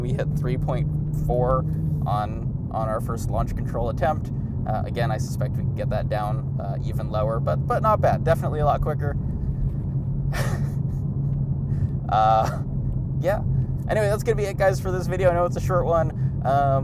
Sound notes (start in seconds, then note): 10.3 laughing